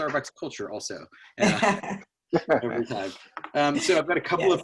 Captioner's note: laughter